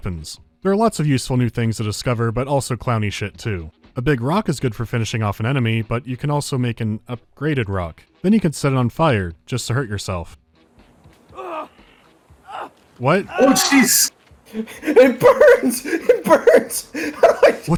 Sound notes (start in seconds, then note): 11.2 character screaming